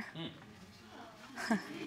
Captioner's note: chuckles